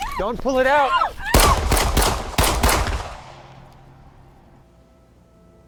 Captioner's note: shouting; gun firing; soft music